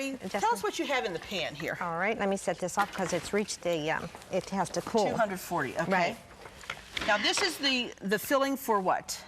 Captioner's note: none